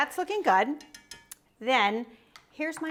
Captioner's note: pan clinks